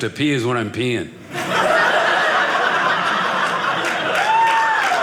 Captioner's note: audience laughing; audience applauding